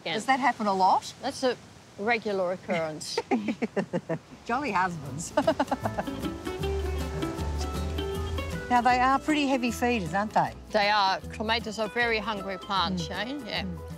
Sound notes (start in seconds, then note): 5.2 laughs